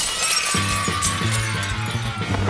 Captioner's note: crash; screaming